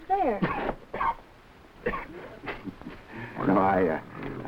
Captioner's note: Gorman coughing